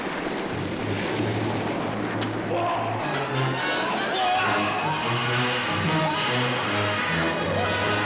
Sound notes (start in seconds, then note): 0.7 suspenseful orchestral music continues; 2.5 men yelling